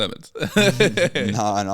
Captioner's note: laughs